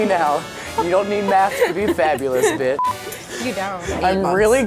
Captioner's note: beep